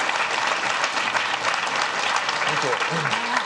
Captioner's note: audience clapping